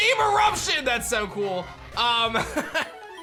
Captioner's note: chuckles